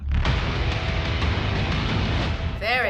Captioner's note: sweeping metal